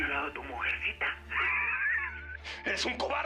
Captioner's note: Ríe